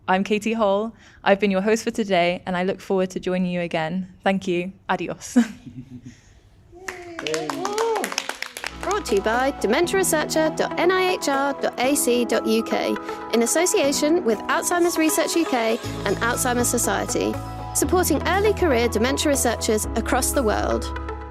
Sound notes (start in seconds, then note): 6.8 both claps